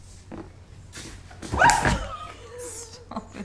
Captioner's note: squeals